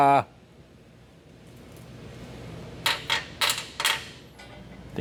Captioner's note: metal Clanking